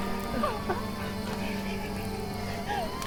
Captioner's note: Maggie crying; police sirens blaring